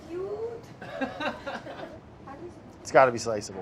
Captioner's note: people laugh